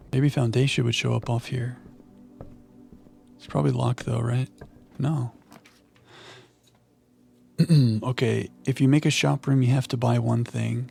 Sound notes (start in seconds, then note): 5.9 clears throat